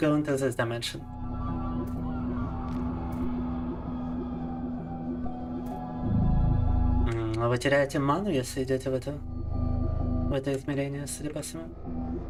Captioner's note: speaking in Russian